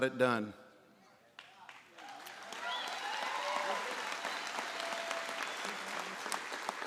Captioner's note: applause